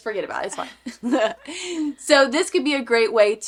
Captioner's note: laugh